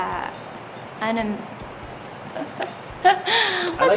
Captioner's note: laughing